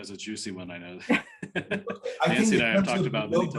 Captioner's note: laughing